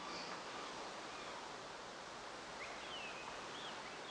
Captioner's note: birds chirping